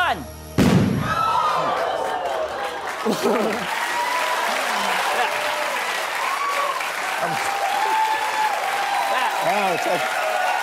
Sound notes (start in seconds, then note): 1.2 crowd gasping; 3.7 applause